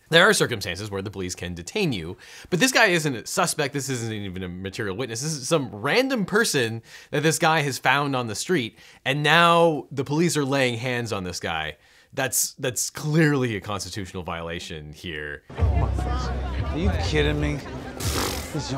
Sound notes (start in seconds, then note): 15.5 people chattering